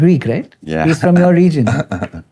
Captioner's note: chuckles